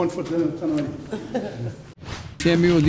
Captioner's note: laughs